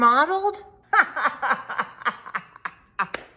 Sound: laughing

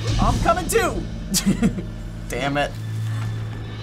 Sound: laughs

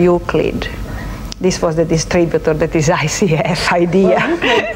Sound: laughs

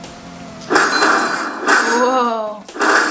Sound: electronic thumps

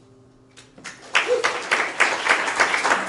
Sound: applause

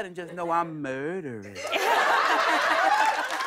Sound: laughter and applause

